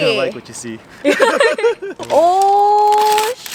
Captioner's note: laughing